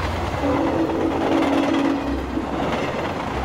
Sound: train whistle

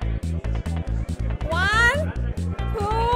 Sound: malaysian accent

